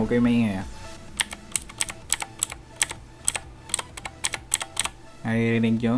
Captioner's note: taps